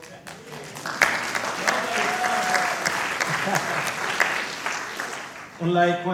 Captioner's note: applause